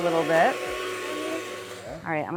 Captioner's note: blender whirring